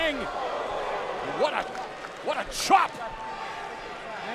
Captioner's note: crowd chatter